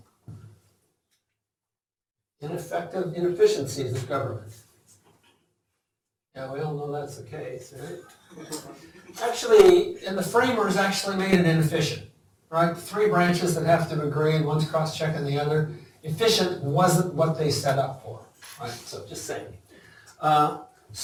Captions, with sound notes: Ineffective-- inefficiencies of government. Now, we all know that's the case, right? [LAUGHTER] Actually-- and the Framers actually made it inefficient, right? Three branches that have to agree, one's cross-checking the other. Efficient wasn't what they set up for, all right? So just saying.